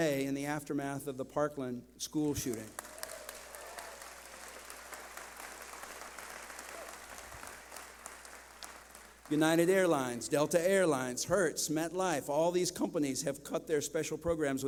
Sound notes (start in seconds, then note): 2.5 clapping